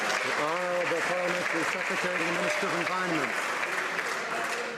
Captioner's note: some Applause